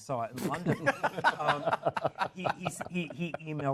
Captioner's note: laughter